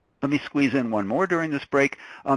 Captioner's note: voiceover